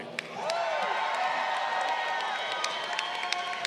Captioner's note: crowd cheering